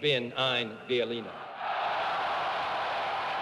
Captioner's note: applause